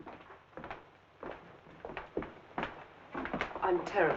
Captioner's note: footsteps thumping